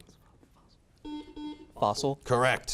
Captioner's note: beeping